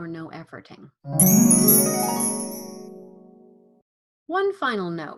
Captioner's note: bright sound